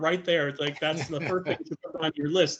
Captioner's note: laughing